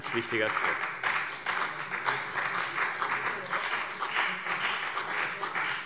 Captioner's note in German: Beifall BÜNDNIS 90/DIE GRÜNEN und vereinzelt CDU